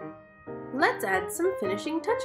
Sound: none

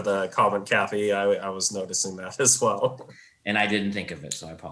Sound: laughs

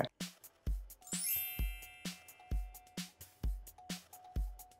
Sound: chimes twinkling

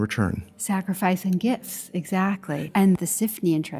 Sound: voiceover

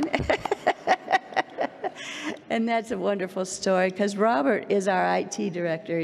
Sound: laughs

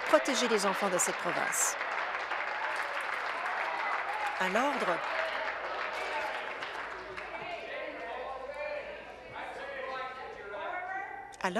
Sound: applause

